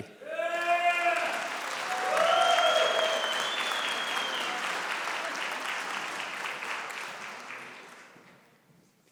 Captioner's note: applause